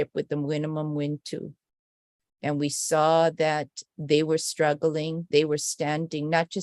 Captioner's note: non-english speech